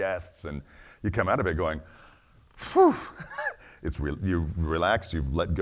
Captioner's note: laughs